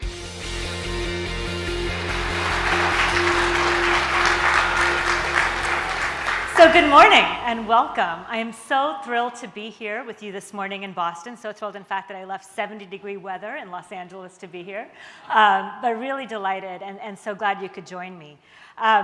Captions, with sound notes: (pop rock music) (applause) - So good morning and welcome. I am so thrilled to be here with you this morning in Boston, so thrilled in fact that I left 70 degree weather in Los Angeles to be here. But really delighted and so glad you could join me.